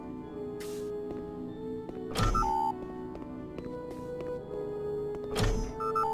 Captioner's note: beeping